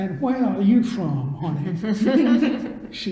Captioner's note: all laugh